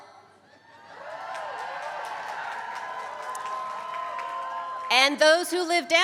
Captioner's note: applause